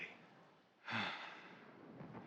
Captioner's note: exhale